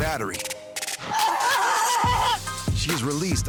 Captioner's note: screaming